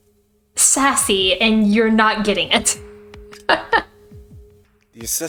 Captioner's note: laughs